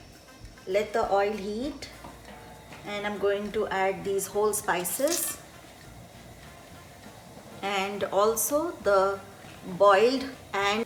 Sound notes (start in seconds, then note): 4.5 spices rattling